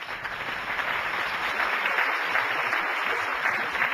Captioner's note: applauding